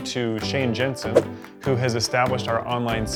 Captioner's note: whooshing